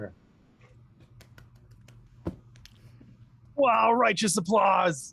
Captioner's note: clapping